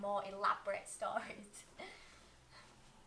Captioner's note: giggle